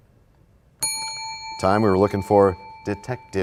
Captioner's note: bell rings, time expires